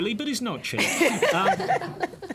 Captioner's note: laughter